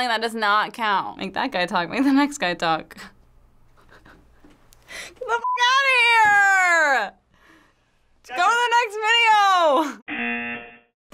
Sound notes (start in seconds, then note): 3.7 chuckles; 10.1 buzzer